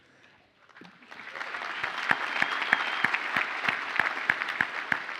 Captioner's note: audience applauds